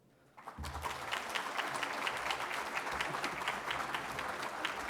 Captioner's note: applause